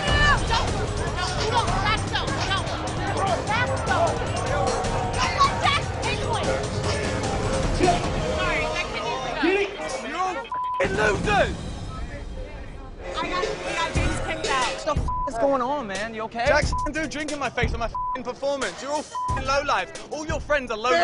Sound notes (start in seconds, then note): 0.3 overlapping shouting; 5.2 indistinct shouting